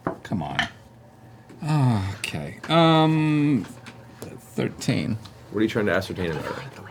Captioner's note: sighs